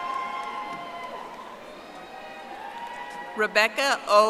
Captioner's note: audience applauding